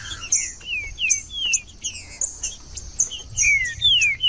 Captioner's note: trinca ferro cantando